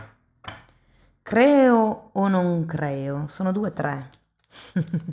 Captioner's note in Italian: risate